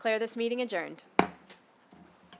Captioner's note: gavel hitting dais